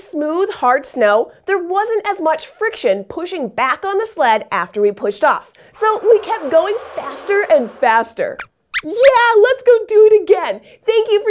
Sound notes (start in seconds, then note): 8.2 squeaks squeaks